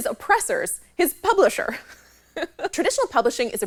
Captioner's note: laughs